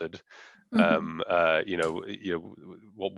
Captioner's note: laughing